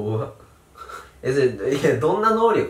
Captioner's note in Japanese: 声にならない笑い